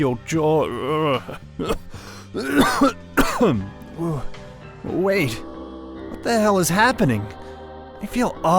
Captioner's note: coughs